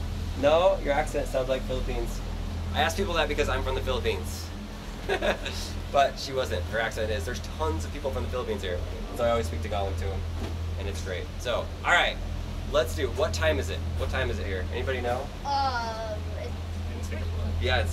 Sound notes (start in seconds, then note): 5.0 laughs